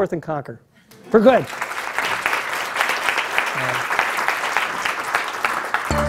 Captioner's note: applause